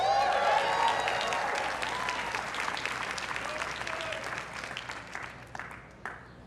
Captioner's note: everyone cheering and applauding